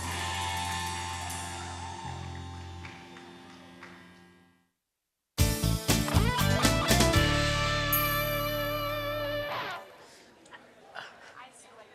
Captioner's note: cheering